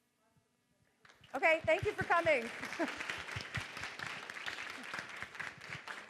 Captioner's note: audience clapping